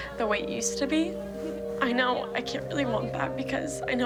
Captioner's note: voice breaking